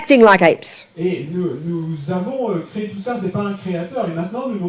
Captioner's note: speaking in French